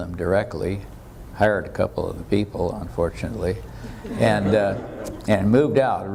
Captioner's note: audience laughter